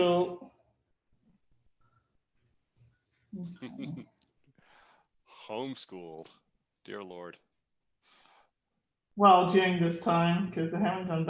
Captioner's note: chuckles